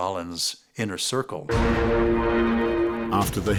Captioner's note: airplane engines whine